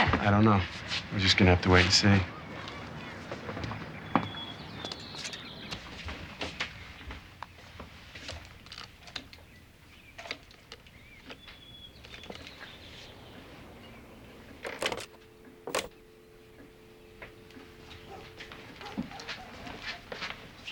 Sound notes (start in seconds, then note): 14.6 dial tone